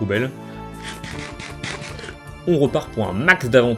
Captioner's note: Minecraft eating sounds